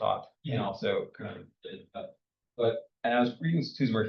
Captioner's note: speaks faintly